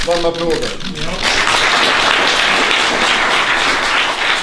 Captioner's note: applause